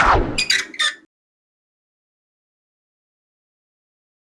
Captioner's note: sign squeaking